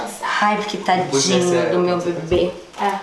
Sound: indistinct chatter

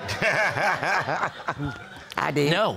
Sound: all laughing

